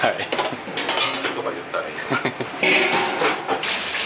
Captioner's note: laughs